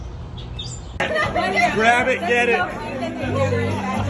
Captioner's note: people laughing; upbeat music